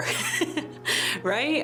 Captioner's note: laughs